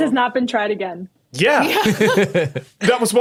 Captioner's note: group laughing